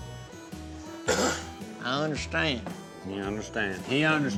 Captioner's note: cough